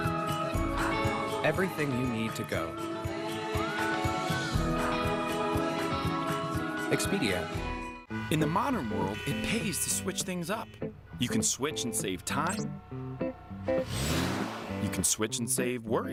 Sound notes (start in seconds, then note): 9.9 cars honking; 10.7 car accelerating